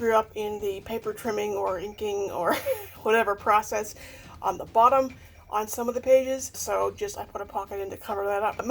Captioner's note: laughs